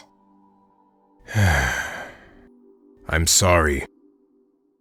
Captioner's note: sighs